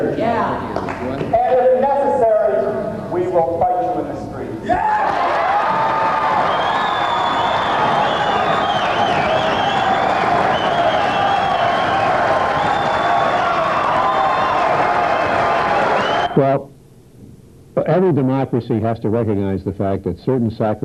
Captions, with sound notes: And if necessary, we will fight you in the streets. >> Yeah. [ Applause ] >> Well, every democracy has to recognize the fact that certain sacrifices are going to have